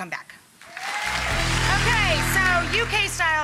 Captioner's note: audience applause